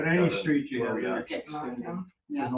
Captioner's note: overlapping chatter